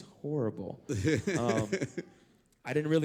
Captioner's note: laugh